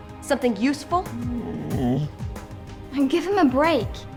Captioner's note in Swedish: hund gnäller